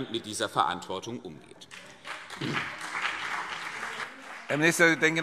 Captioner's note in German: Beifall CDU und BÜNDNIS 90/DIE GRÜNEN